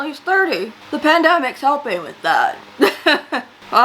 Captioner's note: laughs